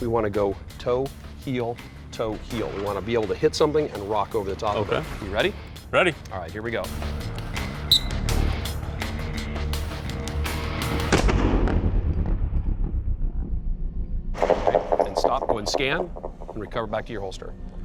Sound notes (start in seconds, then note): 7.8 whistle blown; 11.1 gun shot